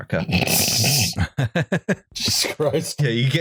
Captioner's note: snorts; chuckles